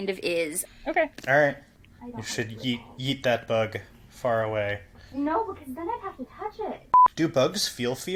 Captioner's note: distant from the mic